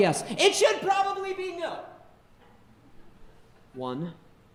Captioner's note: audience laughing